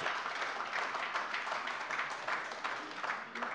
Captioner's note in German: Beifall AfD und vereinzelt SPD